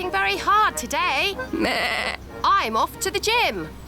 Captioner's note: bleats